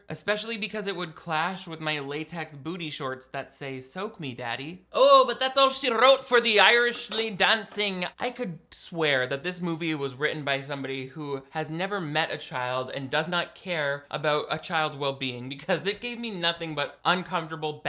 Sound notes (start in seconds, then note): none